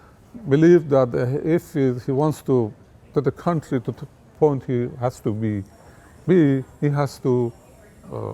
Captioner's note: ringing